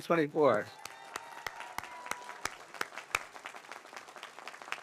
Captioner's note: audience applauds